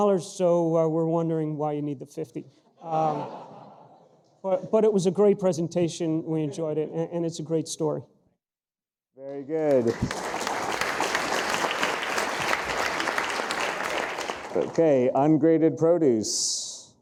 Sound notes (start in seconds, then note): 2.9 audience laughing; 9.3 audience applauding